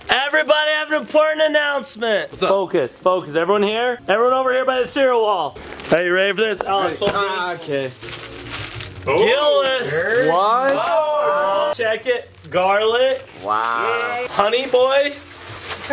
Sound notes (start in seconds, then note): 10.8 cheering